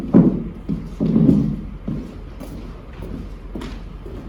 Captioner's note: thumping